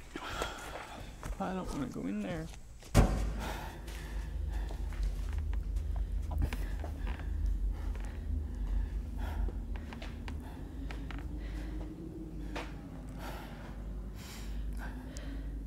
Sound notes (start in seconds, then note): 8.3 eerie wind howls